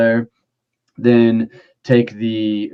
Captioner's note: none